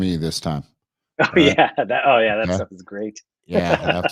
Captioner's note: laughs